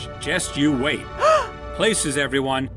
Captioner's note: gasp with glee!